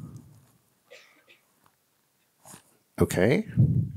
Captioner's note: coughing